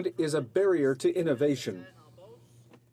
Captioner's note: speaking French